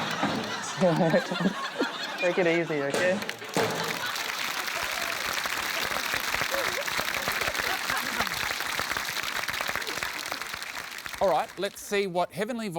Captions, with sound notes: See ya later, Tom. Take it easy, OK? (LAUGHTER, APPLAUSE) Alright, let's see what heavenly voices